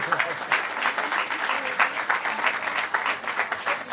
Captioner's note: applause